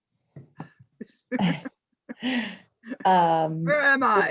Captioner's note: laughs